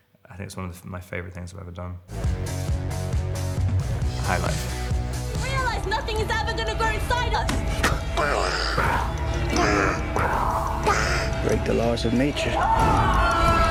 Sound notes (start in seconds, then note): 2.1 upbeat rock music; 8.6 intense music; 10.8 baby babbling; 12.6 woman screaming